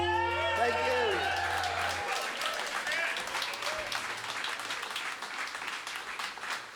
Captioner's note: audience cheers and applauds